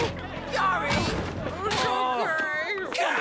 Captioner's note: all moaning and groaning; stuttering in disbelief